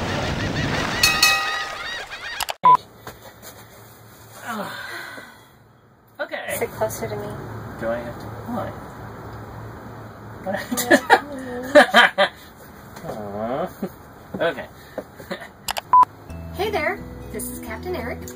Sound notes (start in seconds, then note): 1.0 whooshing, birds squawking, bell dings; 2.4 beeping; 4.4 both sigh; 10.6 laughs; 13.0 moans; 14.9 laughs; 16.2 beeping, gentle music